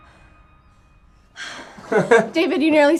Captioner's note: David chuckles; Shelby sighs; David laughing